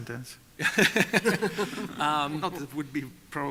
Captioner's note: laughter